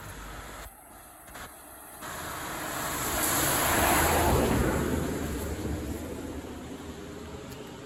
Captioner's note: car passing